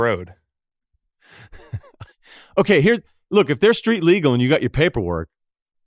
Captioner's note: laughs